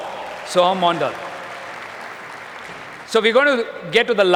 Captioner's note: applause